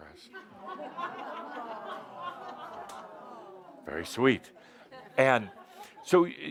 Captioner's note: laughter and audience says, “Aww”